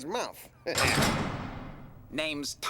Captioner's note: door slams open